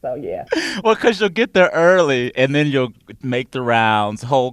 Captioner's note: laughter